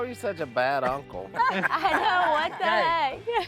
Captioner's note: laughing